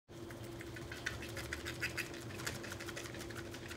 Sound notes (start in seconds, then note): 0.2 spam squishing